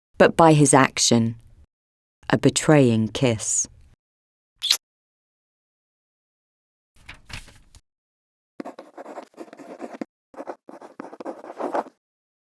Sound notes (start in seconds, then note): 4.6 lips smooching; 8.7 quill scratching